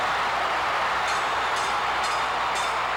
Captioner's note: bell clanging; audience cheering